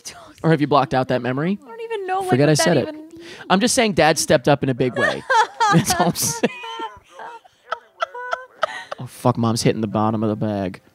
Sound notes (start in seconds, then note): 4.8 both laughing